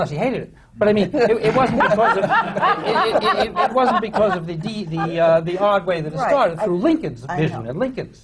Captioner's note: laughter